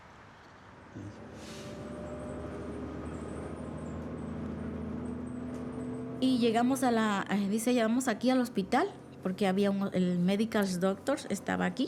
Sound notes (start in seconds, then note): 3.3 bus engine roaring; 7.7 woman speaking Spanish